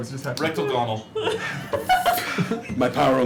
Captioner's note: frustrated sigh